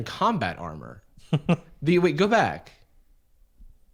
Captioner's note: laughing